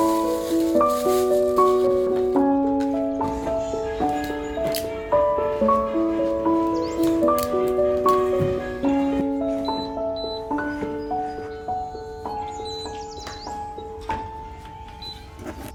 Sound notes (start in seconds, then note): 0.0 paper ruffling; 0.2 calming piano music; 4.3 tape ripping; 9.5 machine beeping